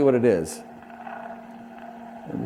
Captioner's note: electronic static